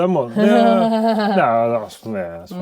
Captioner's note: laughing